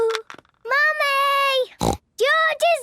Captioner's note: snorts